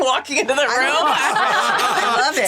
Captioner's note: all laughing